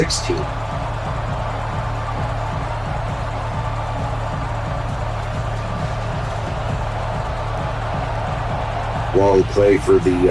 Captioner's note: crowd cheering